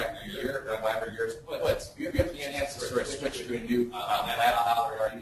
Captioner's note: distorted speech